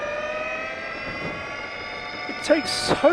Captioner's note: engine revving